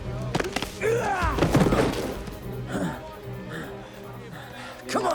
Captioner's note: fighters grunting